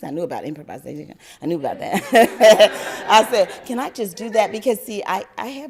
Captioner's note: laughter